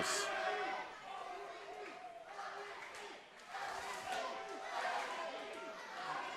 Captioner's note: crowd Chanting 'OMG'